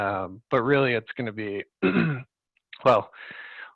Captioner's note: clears throat